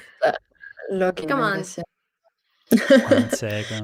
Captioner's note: laughs